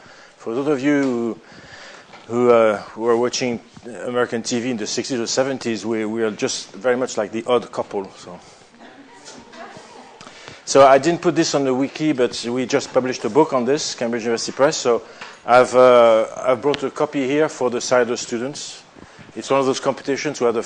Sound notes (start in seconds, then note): 8.6 laughter